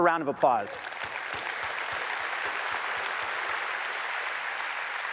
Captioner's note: audience applauds